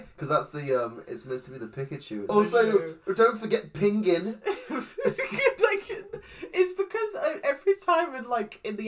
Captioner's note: laughs